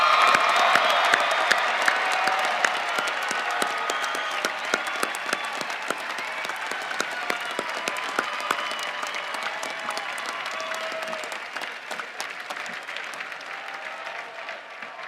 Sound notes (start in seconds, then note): 4.1 cheering and applause